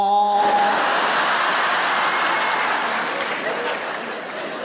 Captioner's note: audience laughs